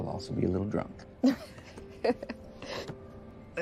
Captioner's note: laughs